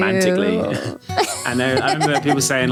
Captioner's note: laughing